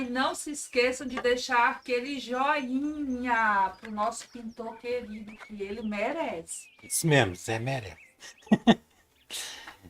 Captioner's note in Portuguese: risadas